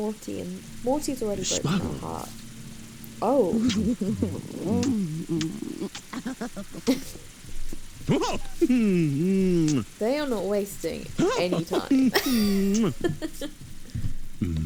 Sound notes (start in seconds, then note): 9.5 laughs